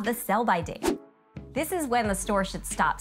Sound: graphic whooshing

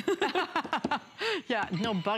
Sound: laughter

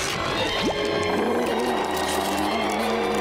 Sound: groaning; roaring

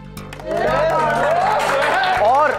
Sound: everyone cheering and applauding

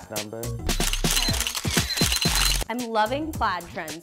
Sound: camera flashes

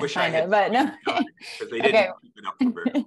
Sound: laughs

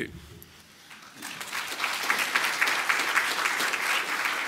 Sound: applause

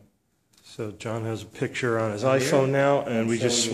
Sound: voiceover

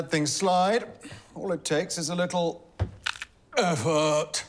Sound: knees crack

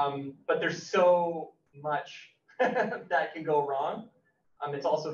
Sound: laughs

